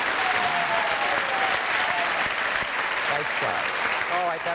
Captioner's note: applause